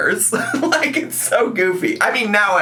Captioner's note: laughs